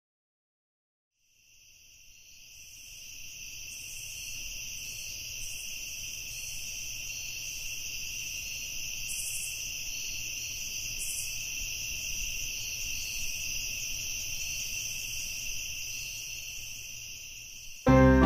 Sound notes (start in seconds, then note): 1.8 crickets chirping